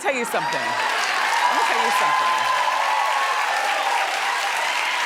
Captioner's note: audience cheering